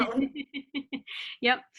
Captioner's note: both laugh